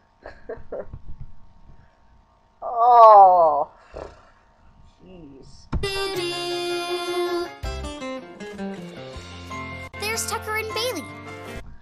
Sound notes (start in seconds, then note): 3.6 sputters